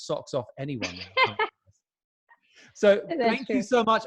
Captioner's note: laughing